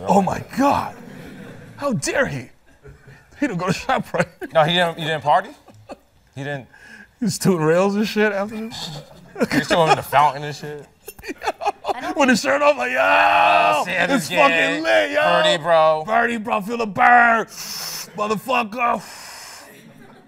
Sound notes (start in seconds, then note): 13.0 screaming; 19.0 exhale; 19.0 inhaling